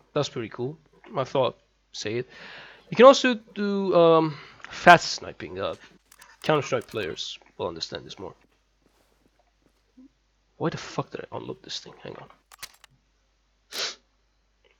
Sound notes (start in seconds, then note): 13.7 sniff